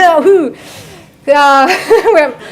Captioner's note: laughs